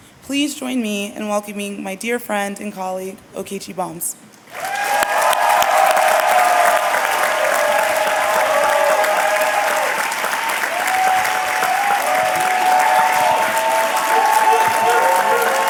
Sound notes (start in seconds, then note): 4.3 cheers and applause